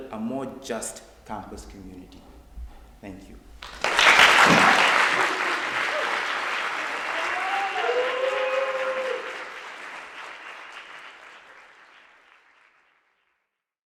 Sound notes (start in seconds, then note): 3.9 audience applauds